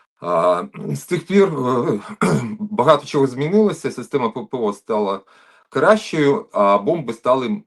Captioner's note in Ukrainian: прочищення горла